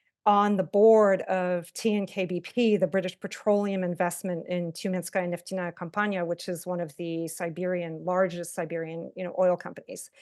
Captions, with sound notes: on the board of T and K, BP, the British Petroleum Investment in [Russian], which is one of the Siberian largest Siberian oil companies.